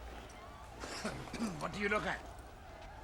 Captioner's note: reynald coughing